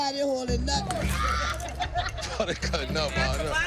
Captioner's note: laughter; laughs